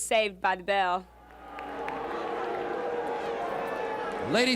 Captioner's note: crowd cheering